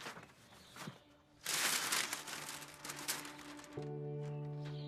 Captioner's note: paper rustling; birds chirping